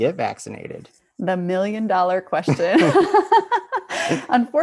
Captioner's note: laughs loudly